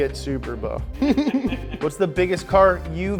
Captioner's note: giggles